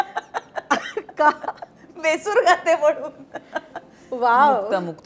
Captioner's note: Both Chuckle; Chuckles